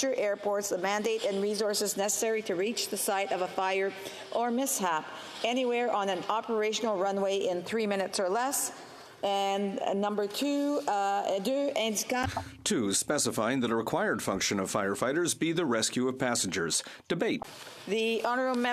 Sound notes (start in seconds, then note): 16.1 speaking French